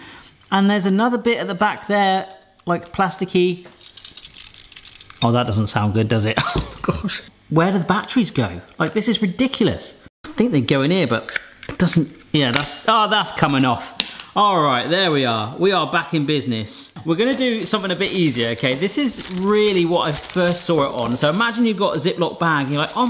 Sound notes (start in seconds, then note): 3.8 gadget rattling lightly